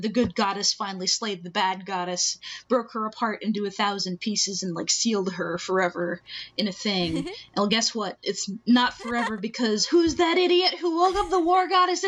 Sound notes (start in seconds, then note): 7.0 laughing